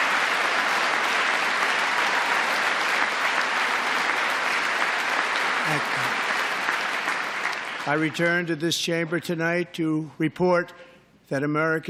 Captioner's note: applause